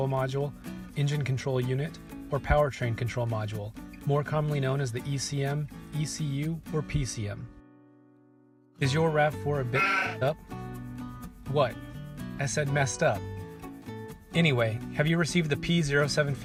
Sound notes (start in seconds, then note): 9.7 sheep bleating